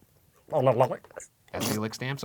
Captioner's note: tongue fluttering